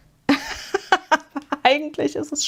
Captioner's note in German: gelächter